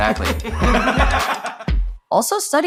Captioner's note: everyone laughs